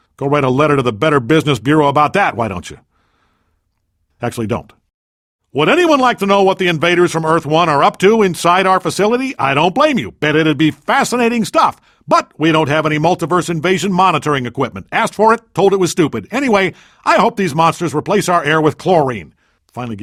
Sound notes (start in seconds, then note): 4.2 beat